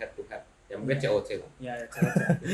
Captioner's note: laughter